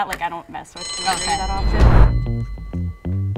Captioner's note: bell rings